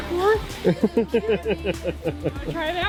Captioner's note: laughs